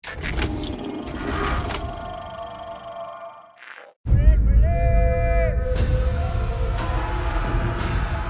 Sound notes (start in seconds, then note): 4.1 shouts in Maya; 5.6 dramatic drum music playing